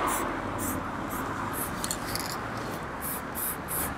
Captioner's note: selective spray noises